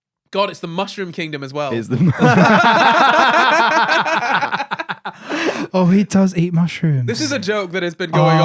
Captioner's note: laughing